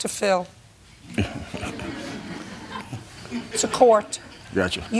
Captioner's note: laughter